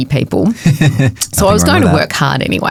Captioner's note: chuckles